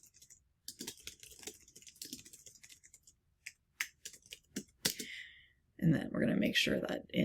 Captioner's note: keyboard clicking